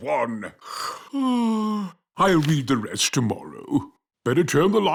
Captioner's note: yawns